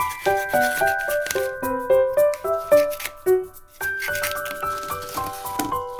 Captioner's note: scissors sound